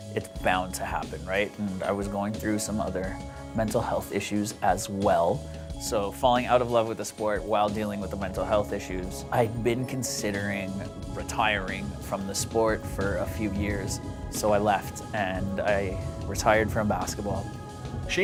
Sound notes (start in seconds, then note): none